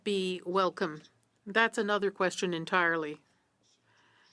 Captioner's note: speaking in French